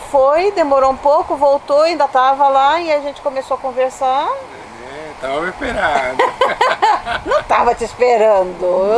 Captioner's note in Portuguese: risos